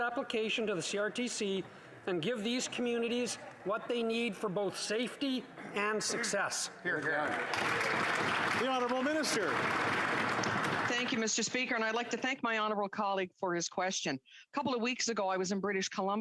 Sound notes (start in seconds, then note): 11.5 applause